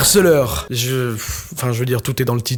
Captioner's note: sigh